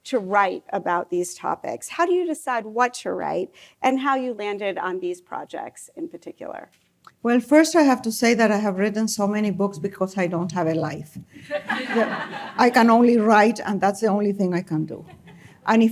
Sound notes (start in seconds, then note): 11.4 laughter